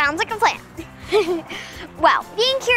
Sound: girls giggle

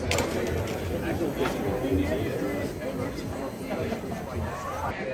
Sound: machine whirring

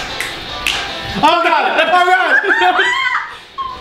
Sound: shouting and laughing

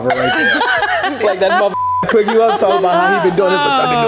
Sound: beep; everyone laughs

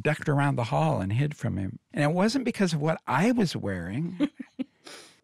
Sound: robin boland laughs

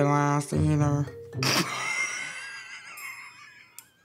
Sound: laughs

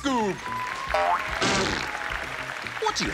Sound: cheering, applause

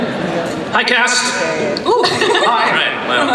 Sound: voiceover

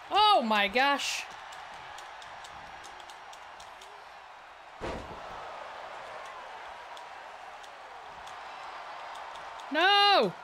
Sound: applause

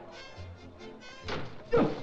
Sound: door shuts; sounds of struggling

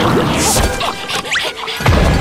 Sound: panting

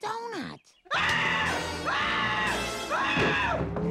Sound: screaming

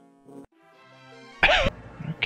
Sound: laughs

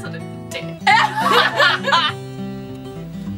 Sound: laughs

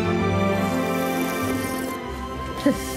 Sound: slurps

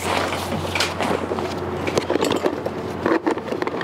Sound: tools rustle

